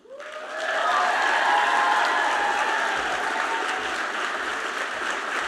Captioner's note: audience cheers and applauds